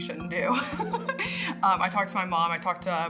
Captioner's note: laughs